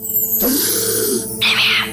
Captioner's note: count bleck gasps